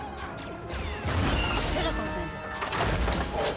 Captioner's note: Speaking Ewokese